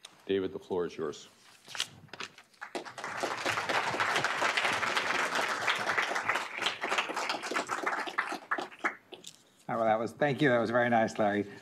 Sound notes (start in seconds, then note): 2.5 applause